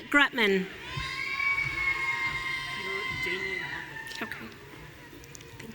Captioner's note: audience cheering